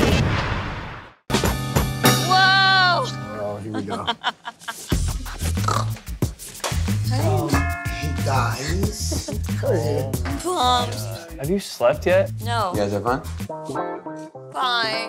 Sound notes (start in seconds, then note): 0.1 whooshing; 1.4 upbeat music; 3.5 laughing; 4.7 snorting